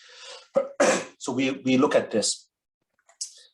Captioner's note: coughs